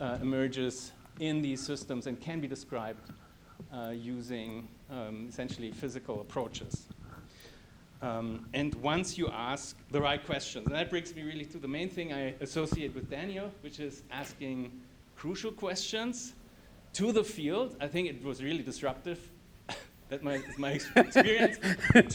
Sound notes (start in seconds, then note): 20.3 laughs